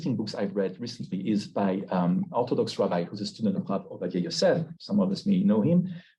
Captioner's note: Hebrew